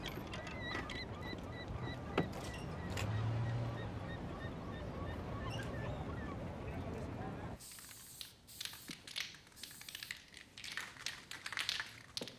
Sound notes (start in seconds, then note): 0.0 seagulls screeching; 8.5 can rattling